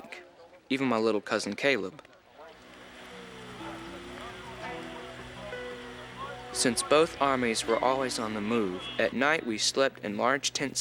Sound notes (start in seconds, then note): 3.8 men chatter